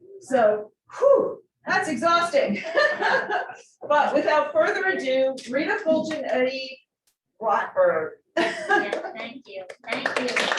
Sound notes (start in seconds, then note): 2.7 laughs